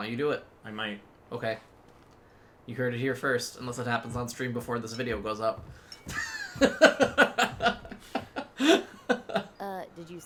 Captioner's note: laughs